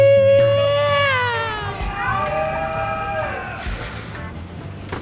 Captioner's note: riders cheering